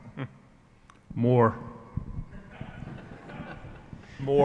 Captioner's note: brief laughing